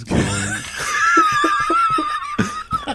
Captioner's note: laughter